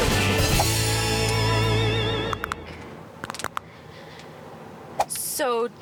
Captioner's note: cartoonish knuckle cracking